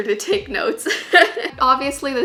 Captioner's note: laughs